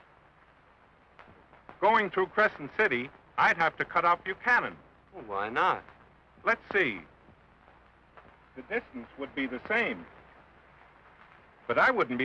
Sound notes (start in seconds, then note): none